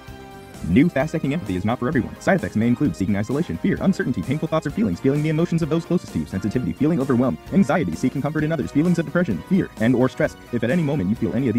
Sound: fast narration of on-screen text

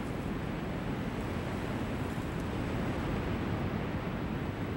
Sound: lava gushing continues

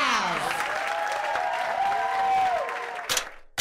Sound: laughter, applause, and cheering

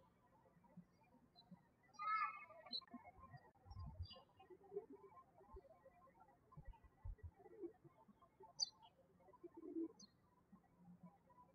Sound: birds chirping

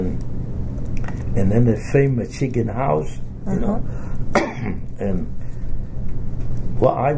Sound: coughs

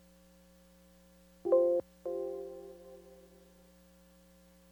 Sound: computer pinging

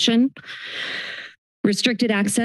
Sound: inhales

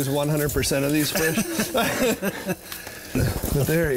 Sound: laugh

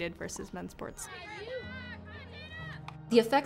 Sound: indistinct cheering and chattering

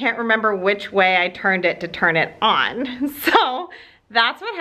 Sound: laughs

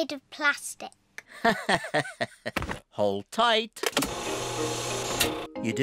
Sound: laughs

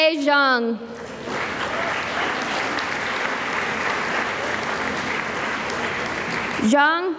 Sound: applause

